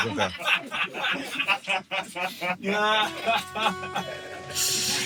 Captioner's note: laughter